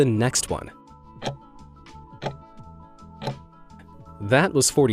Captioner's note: timer ticking